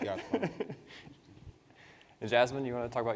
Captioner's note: participants laugh